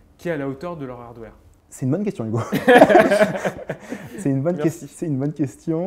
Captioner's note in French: rires